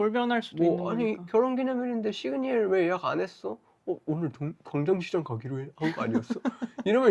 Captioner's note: laughs